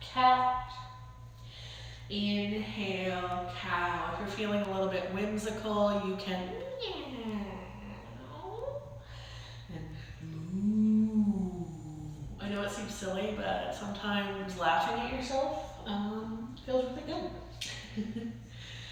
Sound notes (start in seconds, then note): 10.2 meows like a cat; 10.8 moo's like a cow; 17.6 chuckles